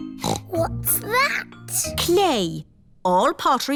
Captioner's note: snorts